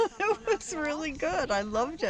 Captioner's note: laughter